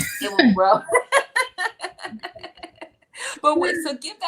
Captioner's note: laughter